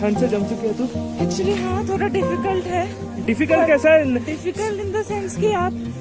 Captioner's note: laugh